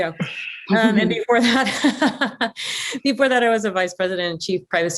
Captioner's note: laughs